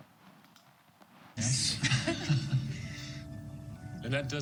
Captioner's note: both chuckle